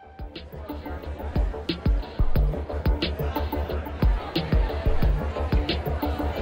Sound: rhythmic, upbeat music; indistinct conversation

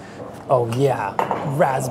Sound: jar clunks

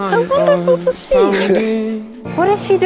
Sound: laughs

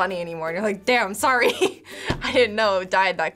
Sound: laughing

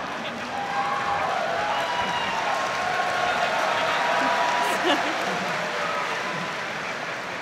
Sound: audience applauding

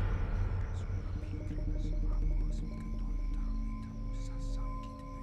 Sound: whispering in foreign language

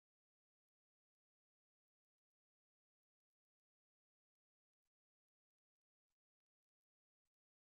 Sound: none

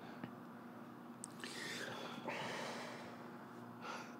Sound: sighs

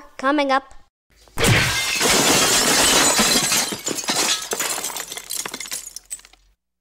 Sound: crash!

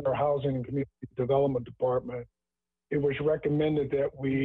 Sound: ~interference~

